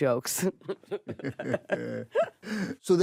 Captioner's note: both laugh